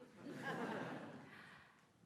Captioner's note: laughter